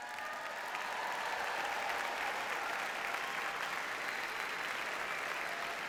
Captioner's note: audience cheers and applauds